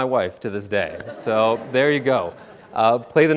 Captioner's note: audience laughing